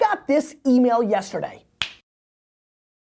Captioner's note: fingers snapping